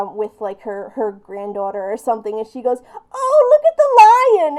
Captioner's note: old lady voice